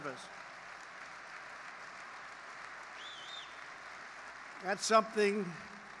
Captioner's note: applause